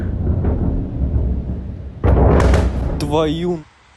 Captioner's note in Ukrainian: вибух